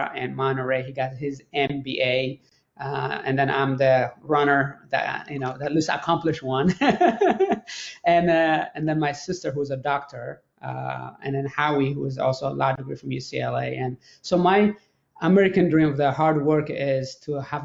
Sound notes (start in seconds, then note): 6.7 laughs